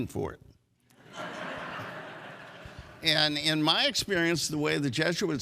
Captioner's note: audience laughs